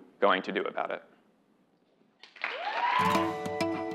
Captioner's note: applause